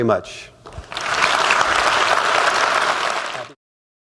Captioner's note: applause